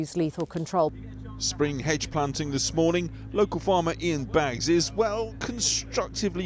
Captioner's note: voice-over